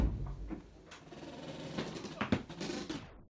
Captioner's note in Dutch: deur gaat open; deur kraakt